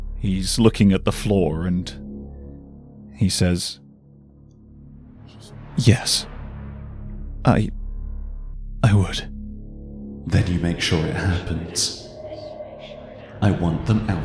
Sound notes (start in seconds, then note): 7.2 shakily; 11.5 echoing